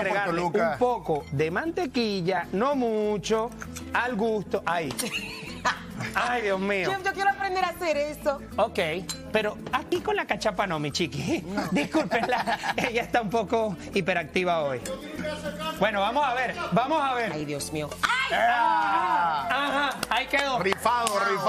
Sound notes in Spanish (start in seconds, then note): 4.9 risas